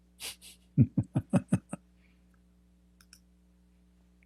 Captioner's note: Ketawa